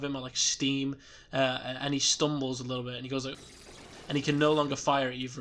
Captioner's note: Arachnotron SFX